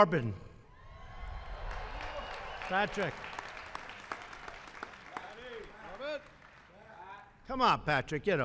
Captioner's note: applause